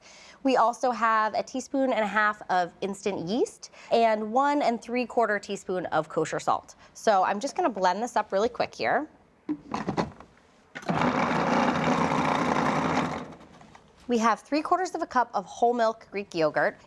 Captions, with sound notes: We also have a teaspoon and a half of instant yeast and one-and-three-quarter teaspoon of kosher salt. So I'm just going to blend this up really quick here. (processor whirring) We have three-quarters of a cup of whole-milk Greek yogurt.